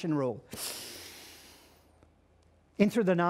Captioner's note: inhales deeply